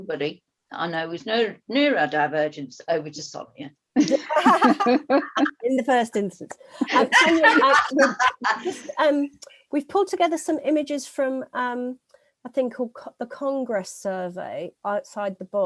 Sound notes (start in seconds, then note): 7.2 laughter